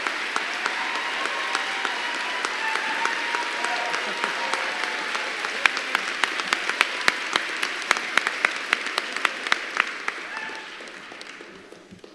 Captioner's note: applause